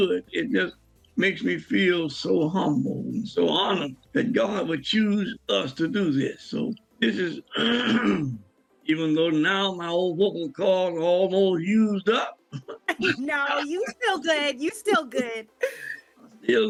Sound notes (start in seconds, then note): 7.4 clears throat; 12.1 laughs